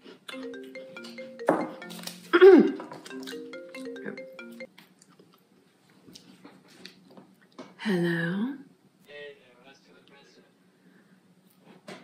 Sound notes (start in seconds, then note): 0.3 phone rings; 9.0 voice on phone